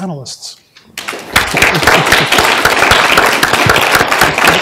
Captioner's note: applause